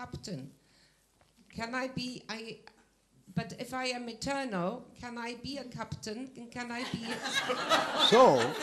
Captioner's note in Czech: smích